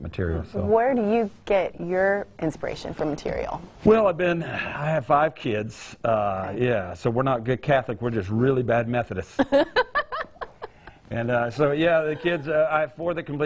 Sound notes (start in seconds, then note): 9.6 laughing